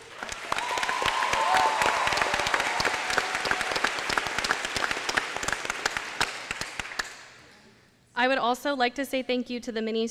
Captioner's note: applause